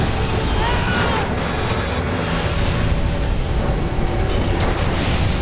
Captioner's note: plane crashes